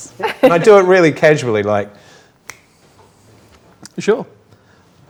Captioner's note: snaps